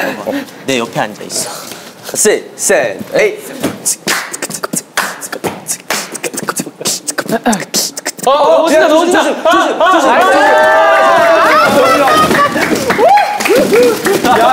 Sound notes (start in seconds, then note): 3.6 beatboxing right at his ear; 11.1 crashing